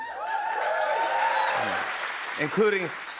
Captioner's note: cheers and applause